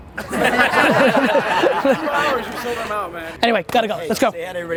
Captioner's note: audience laughing